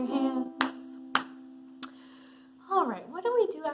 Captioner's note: claps